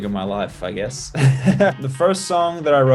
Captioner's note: laughs